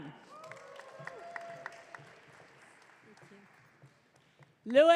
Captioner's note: audience cheering